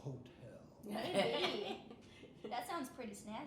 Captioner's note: laughing